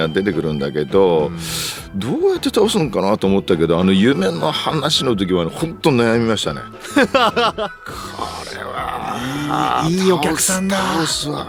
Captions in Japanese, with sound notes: うん。[鼻息] どうやって倒すんかなと思ったけど、あの夢の話の時は本当悩みましたね。 [笑い] これはい、いいお客さんすわ。